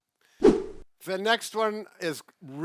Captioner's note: air whooshing